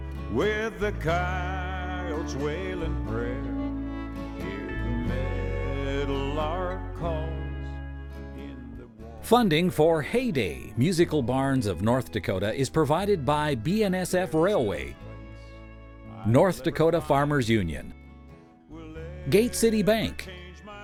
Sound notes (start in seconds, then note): 9.5 voiceover